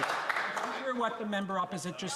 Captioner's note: some Applause